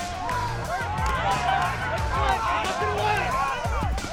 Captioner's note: shouting